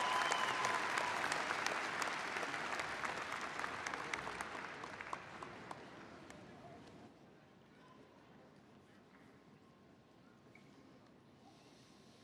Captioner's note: applause